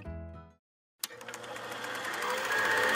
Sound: film projector running

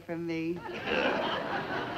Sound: audience laughs; grunts

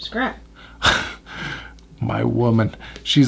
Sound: laughs

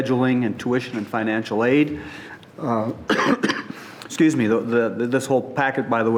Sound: coughing

